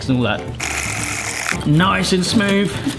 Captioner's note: whisk rattles